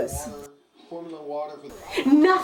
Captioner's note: TV blaring